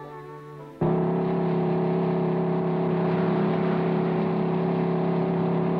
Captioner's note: engines rumbling